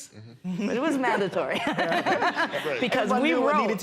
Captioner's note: laughter